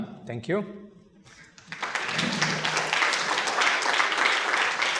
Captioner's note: applause